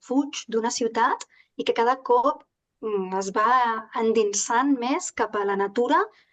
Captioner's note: continues speaking in Catalan